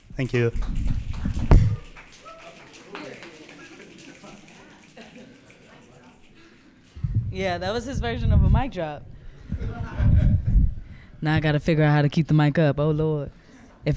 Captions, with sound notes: Thank you. (audience clapping and cheering) - Yeah, that was his version of a mic drop. (audience laughing) Now I got to figure out how to keep the mic up. Oh Lord.